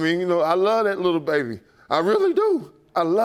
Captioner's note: none